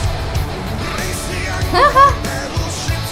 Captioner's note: laughing